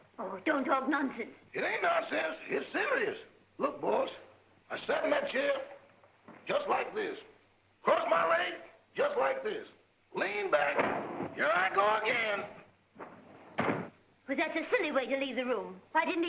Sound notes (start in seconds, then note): 13.5 chair clicks